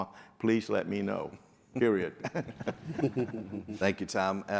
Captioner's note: panel laughing